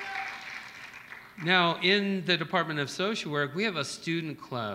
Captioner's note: applause